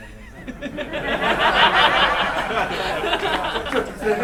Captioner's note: laughing